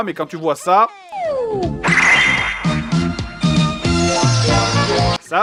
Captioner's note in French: bruitages magiques de dessin animé